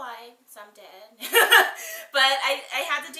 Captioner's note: laughs